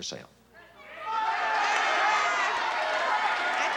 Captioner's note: audience shouting